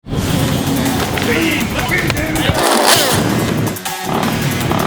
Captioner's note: music and motorcycle revving